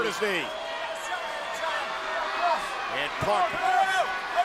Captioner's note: punk shouts